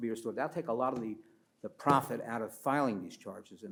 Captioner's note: pats table